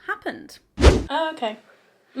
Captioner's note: video swooshes